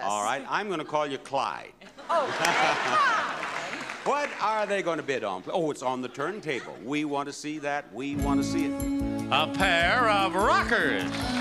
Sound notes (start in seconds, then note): 1.8 audience laugh; 8.0 soft music; 9.8 audience clap